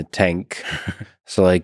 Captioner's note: Tim laughs